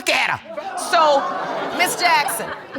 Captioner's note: audience laughs